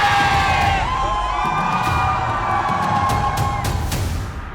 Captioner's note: Gen.G superfans dominating with their chants